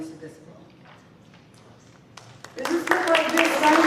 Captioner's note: applause